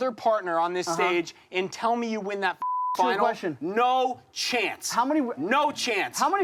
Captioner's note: beep